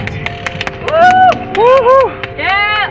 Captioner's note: cheers